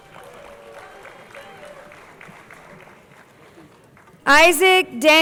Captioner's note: crowd applauding